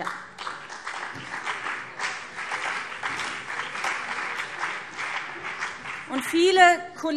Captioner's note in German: Beifall BÜNDNIS 90/DIE GRÜNEN und CDU